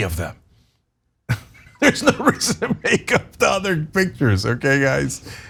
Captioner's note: laugh